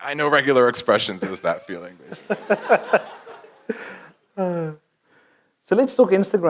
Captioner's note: laugh